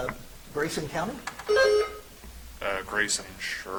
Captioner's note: buzzer chimes